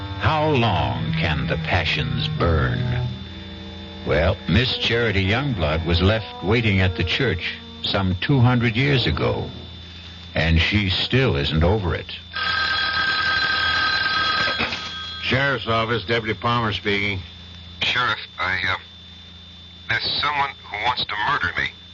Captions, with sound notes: How long can the passions burn? Well, Miss Charity Youngblood was left waiting at the church some 200 years ago, and she still isn't over it. [Phone ringing] Sheriff's office, Deputy Palmer speaking. Sheriff, I have... ...as someone who wants to murder me.